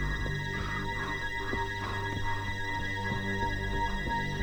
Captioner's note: Nate panting